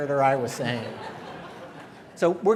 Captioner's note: laughter